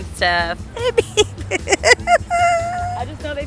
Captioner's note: laughing